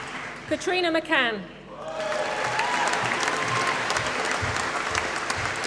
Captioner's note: applause